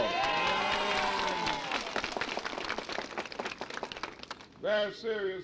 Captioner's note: crowd clapping and cheering